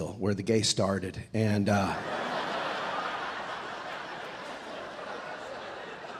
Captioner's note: audience laughing